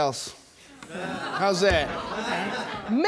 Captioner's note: audience exclaiming